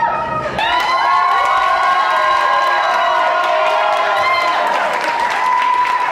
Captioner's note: cheering